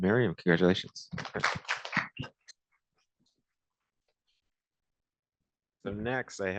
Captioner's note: applause